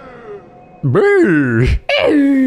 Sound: goofy scream

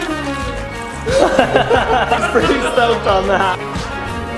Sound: laughing

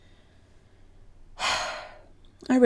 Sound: sigh

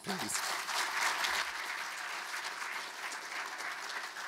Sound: audience clapping

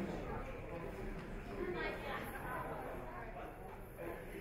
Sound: audience chatter

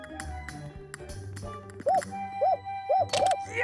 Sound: hooting

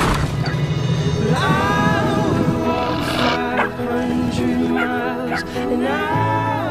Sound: wolf growls; puppy barks

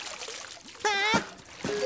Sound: gasps

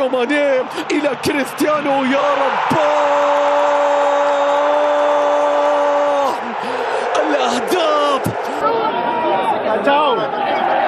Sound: clap

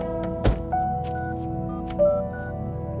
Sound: dialling

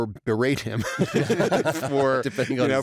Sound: laughter

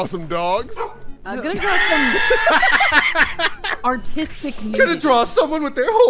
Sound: laughter

